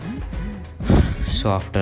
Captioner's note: sigh